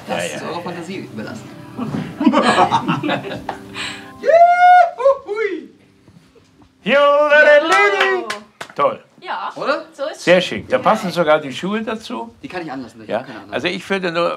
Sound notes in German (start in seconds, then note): 2.1 lacht dreckig